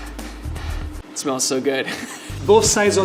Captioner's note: chuckles